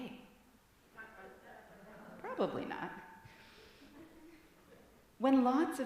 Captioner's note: congregation chatters